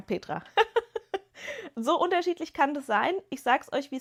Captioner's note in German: gelächter